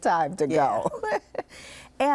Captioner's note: laughs